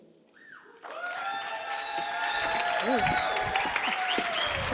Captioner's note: cheers and applause